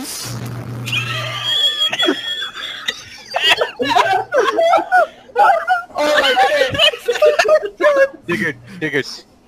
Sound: even more laughter and wheezing

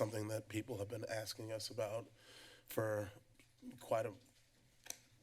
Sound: inhales; click sound

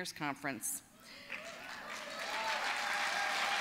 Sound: applause

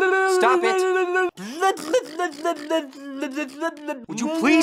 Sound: sputtering lips

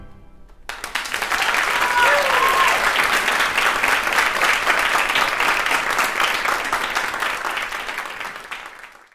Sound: applause

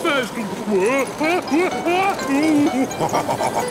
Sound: shouting; laughing, snorting

